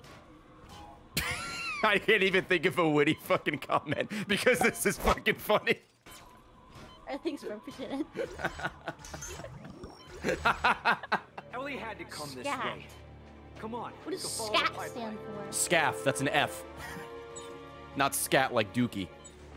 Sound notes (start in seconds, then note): 0.8 laughs